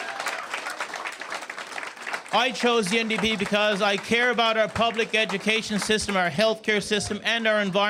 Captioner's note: cheers and Applause